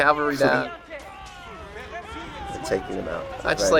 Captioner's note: soldiers yelling